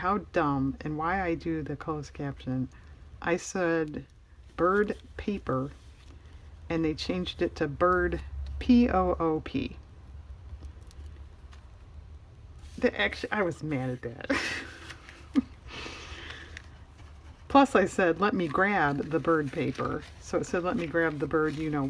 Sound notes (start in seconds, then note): 14.3 laughs